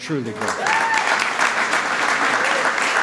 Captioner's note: applause